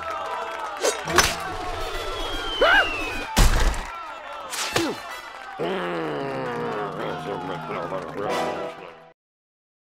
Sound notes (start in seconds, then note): 5.6 grunts; 5.6 growls